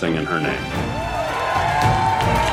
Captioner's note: Gritos e aplausos